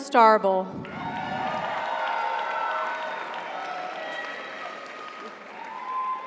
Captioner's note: audience cheers; audience applauds